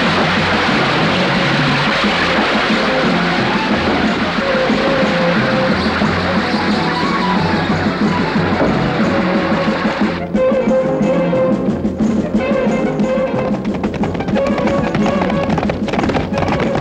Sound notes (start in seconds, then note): 12.8 horses clattering